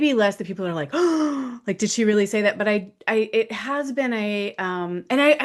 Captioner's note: gasps